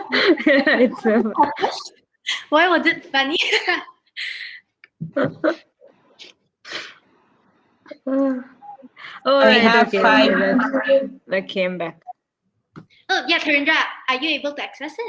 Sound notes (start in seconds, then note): 2.7 chatter